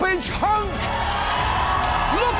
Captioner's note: audience cheers, applauds